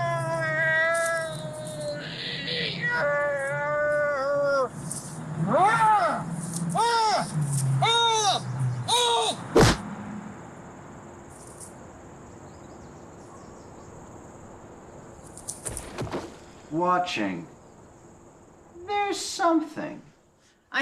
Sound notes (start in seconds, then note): 9.5 fist swatting; 15.4 body thudding